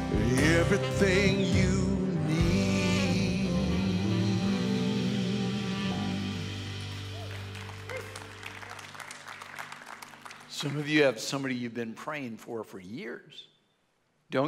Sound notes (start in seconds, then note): 6.5 audience applauds